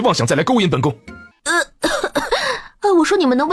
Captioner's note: coughs